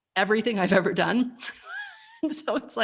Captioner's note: chuckles